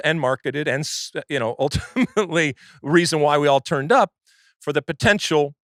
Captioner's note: laughs